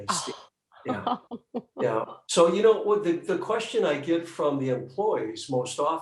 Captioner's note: laughing